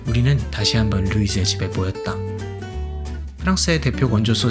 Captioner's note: none